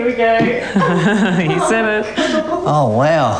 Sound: laugh

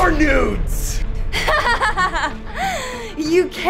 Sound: laughs

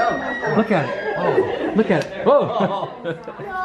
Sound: laughing

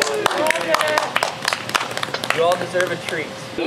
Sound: everyone applauds

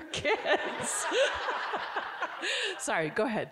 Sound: all giggling

